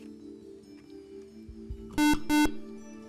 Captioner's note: buzzer